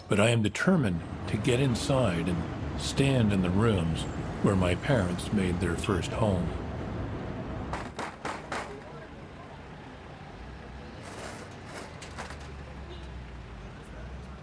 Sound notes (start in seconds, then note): 8.3 person knocking on door